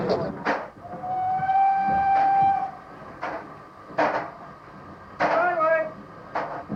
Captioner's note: trainn horn